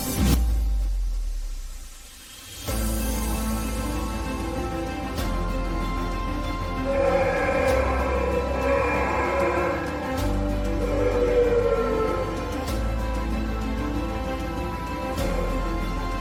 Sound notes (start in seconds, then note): 0.3 dramatic music; 6.8 Bigfoot growling; 12.5 dramatic music continues